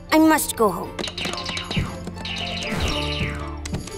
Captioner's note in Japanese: ゲーム機の操作音